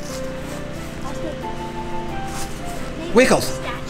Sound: assistant faintly speaking

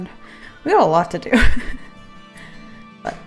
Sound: laughs

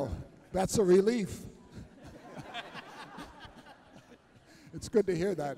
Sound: laughter

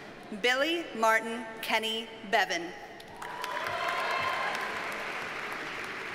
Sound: audience cheers and applauds

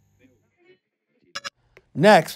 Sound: digital blip

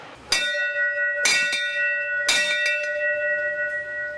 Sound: bell rings

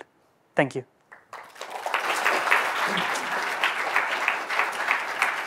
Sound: audience applauding

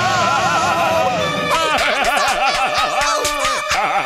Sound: evil laughter

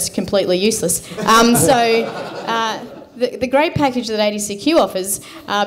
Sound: laughter

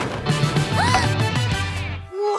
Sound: gasping

